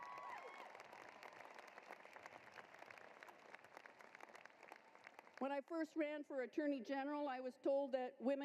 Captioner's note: applause